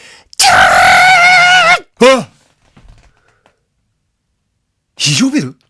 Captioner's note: scream